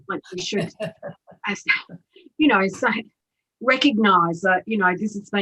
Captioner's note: laughs